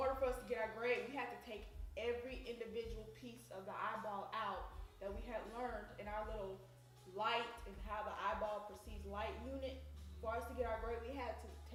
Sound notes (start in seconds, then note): none